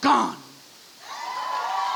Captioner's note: audience cheers and applauds